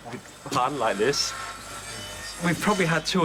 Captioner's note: machine whirring